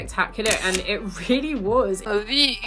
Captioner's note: camera clicks